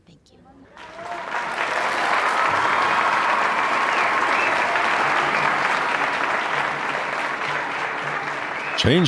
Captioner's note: audience applause